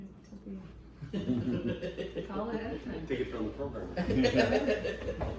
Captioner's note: laughing